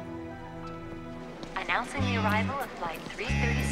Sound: woman on PA

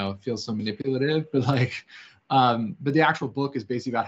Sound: chuckles

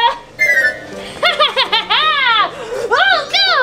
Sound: laughing

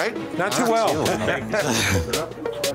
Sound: laughter

